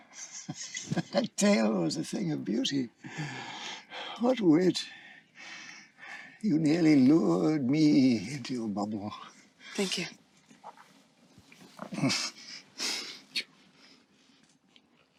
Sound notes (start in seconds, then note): 0.0 chuckling; 3.0 breathes heavily